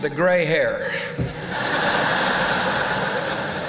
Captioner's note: laughter